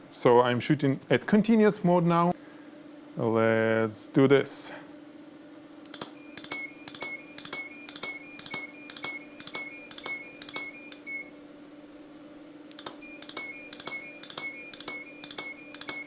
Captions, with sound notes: So I'm shooting at continuous mode now. Let's do this. (camera clicking)